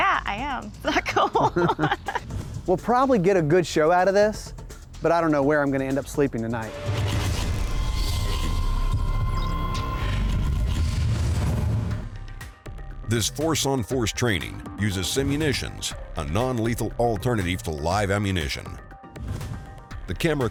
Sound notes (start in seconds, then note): 0.9 laughs; 7.4 heavy machinery whirs